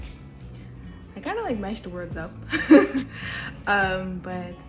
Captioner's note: laughs